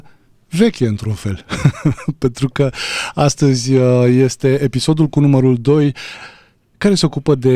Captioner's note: laughter